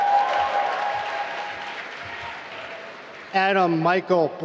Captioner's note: applause